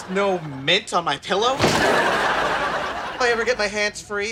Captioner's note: laughs